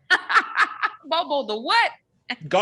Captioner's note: laughs